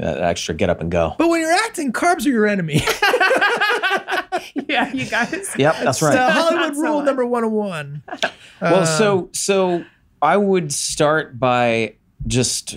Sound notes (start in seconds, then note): 2.7 Charlie and Megan laughing